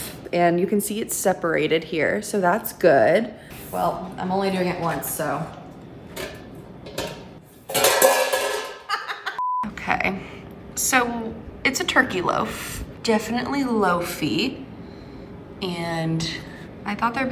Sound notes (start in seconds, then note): 7.6 metal clanging; 8.8 laughing